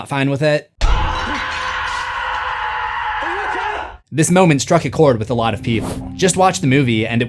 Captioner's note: Nikki screams